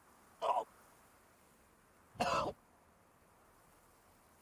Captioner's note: coughing